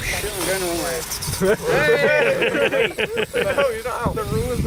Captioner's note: laughter